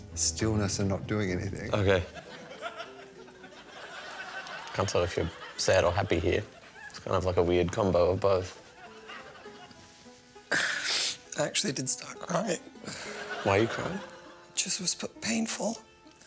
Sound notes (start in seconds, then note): 2.0 laughter